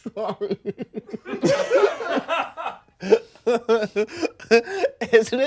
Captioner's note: everyone laughs